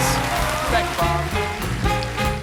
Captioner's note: applause